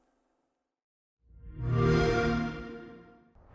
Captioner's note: xbox sound